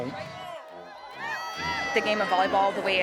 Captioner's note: crowd cheering